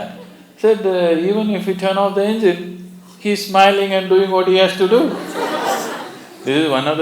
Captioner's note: laughter